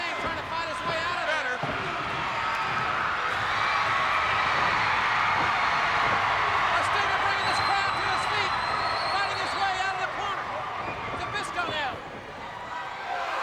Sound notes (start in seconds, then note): 2.9 crowd cheers